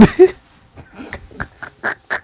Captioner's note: laughing